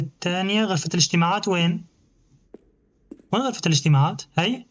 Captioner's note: tapping; footsteps; beeping